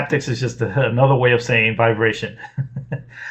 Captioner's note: laughs